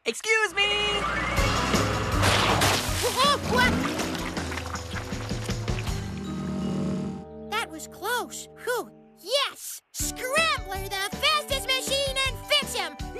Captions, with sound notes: EXCUSE ME! ( Splashes! ) ( Yelps ) THAT WAS CLOSE. PHEW. YES! SCRAMBLER, THE FASTEST MACHINE IN FIXHAM.